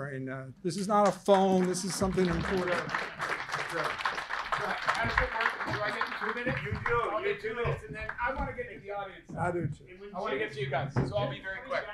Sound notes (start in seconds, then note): 3.0 audience applauding